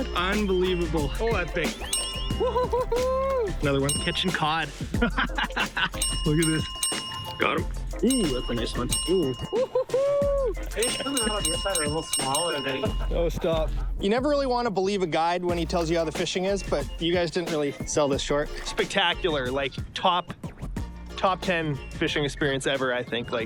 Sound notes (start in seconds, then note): 1.8 text dings; 3.9 text dings; 4.9 laughs; 6.0 text dings; 10.8 text dings